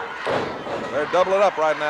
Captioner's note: floor banging